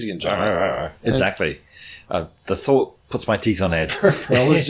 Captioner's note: laughs